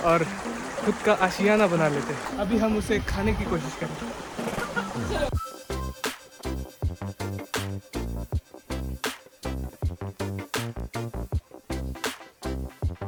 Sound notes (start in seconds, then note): 4.4 laughing